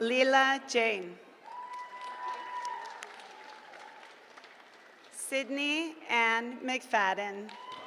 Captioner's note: applause; applause